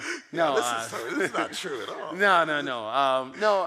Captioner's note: laughs